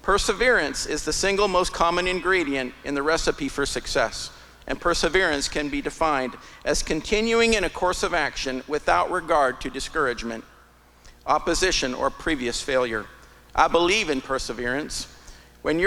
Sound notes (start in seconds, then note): none